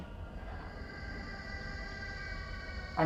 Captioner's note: babies shriek